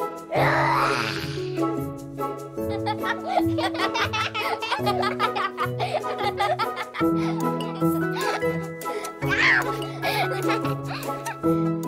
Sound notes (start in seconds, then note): 2.7 laugher